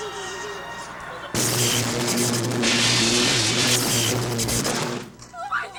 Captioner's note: electricity buzzing